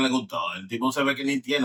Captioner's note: speaking In Foreign Language